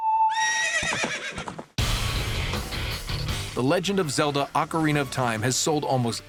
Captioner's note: horse neighing